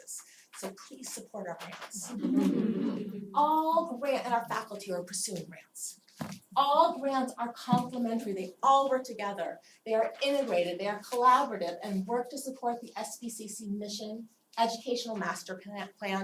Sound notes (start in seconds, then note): 2.1 laugh